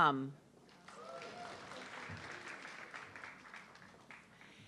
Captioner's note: audience clapping